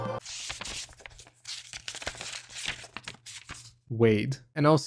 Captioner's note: rustling papers